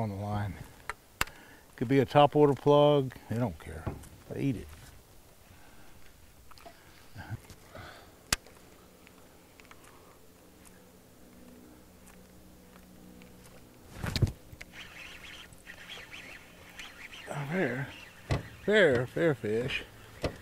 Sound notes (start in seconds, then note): 6.9 rod whipping; 14.6 reel cranking